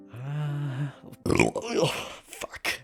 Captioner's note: burps